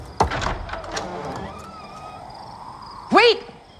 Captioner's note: door thudding; door creaks